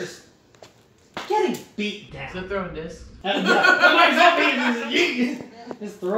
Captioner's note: laughter